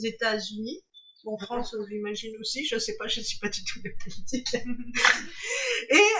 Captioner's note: laughs